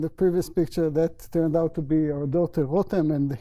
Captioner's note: non-english